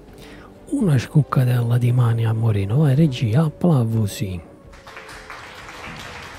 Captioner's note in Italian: Applauso